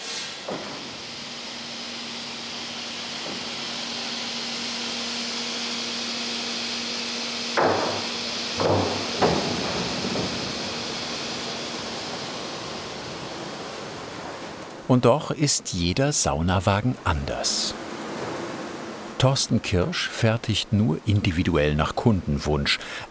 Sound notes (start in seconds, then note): 0.8 machine noise in the background; 9.2 rumble